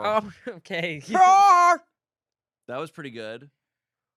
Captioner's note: yells